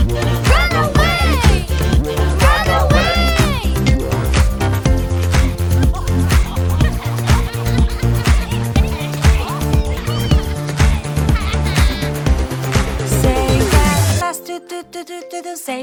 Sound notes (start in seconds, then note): 7.1 sharks laugh